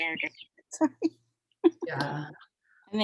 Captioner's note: laughs